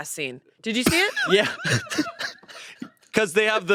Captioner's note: they laugh